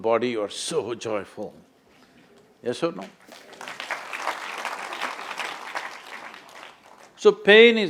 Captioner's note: applause